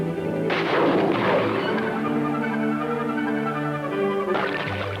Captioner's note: gunshot